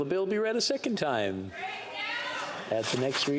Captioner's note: speaking French